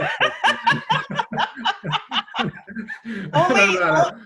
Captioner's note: laughter